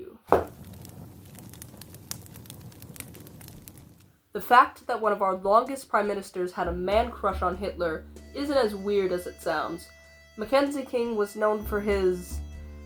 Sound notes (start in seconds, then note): 0.2 the fire cracks; 0.3 thump of the book